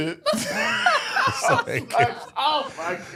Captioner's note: all laughing